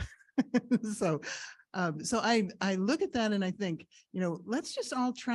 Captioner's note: laughs